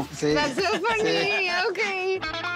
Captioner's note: laughing